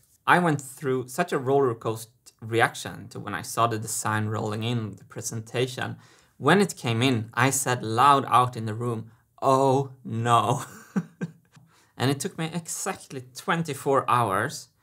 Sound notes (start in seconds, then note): 10.5 chuckles